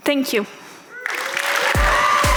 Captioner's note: audience applauds; upbeat music